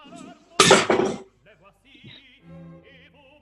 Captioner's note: clatter